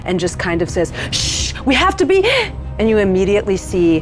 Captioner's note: gasps